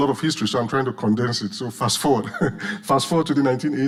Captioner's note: chuckles